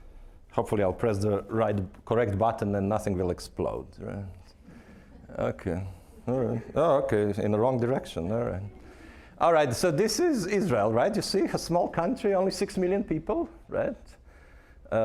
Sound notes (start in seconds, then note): 4.7 audience chuckling